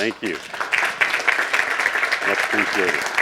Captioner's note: applauding